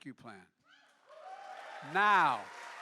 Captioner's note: applause